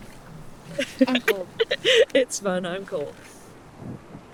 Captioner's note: laughs